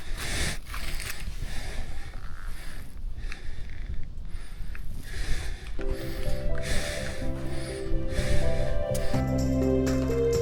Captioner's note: sounds of very tense breathing